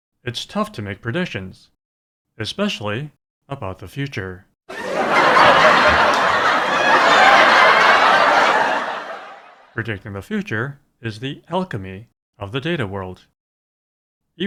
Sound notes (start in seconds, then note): 4.7 laughter